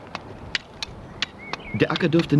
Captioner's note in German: Arbeitsgeräusche